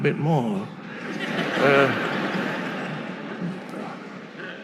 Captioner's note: audience laughing